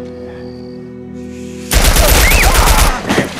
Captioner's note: gunshots